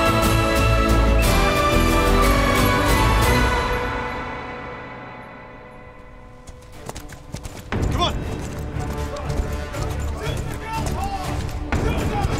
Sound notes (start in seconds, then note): 6.0 horse gallops; 10.5 Kah'Nath continue to shout out